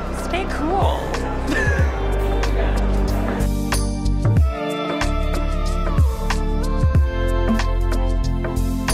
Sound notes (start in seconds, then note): 1.5 laughs; 3.0 slow dance song plays